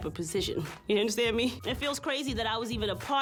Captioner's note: chuckles